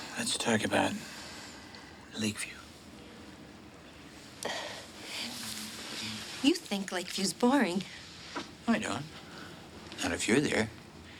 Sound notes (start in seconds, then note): none